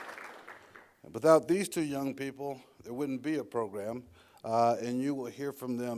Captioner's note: applause